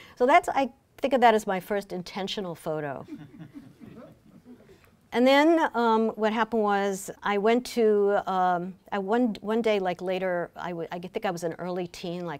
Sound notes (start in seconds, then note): 3.0 laughing